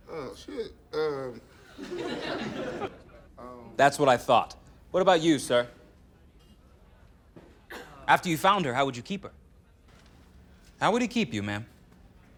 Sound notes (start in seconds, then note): 1.6 laughter